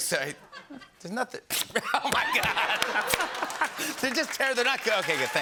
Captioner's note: laughing